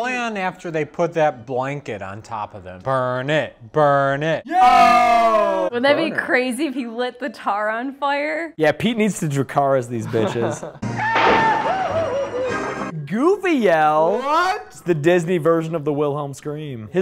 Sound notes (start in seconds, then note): 4.5 cheering; 11.0 a very Goofy-esque yell